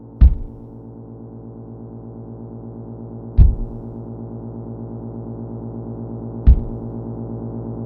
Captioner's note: thudding head